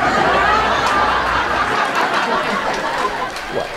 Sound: laughter

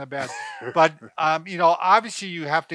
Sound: laughing

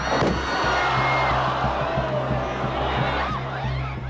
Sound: crowd shouting

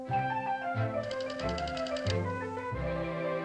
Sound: telephone dialing

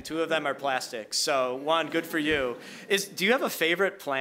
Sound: audience chuckling

